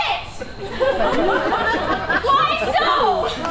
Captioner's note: audience laughs